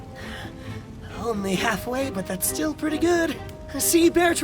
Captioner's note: panting